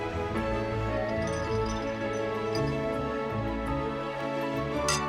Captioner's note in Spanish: traqueteo de la cadena